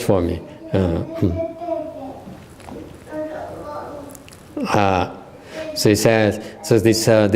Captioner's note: the little one talking